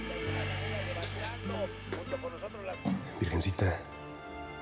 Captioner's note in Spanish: voz en el radio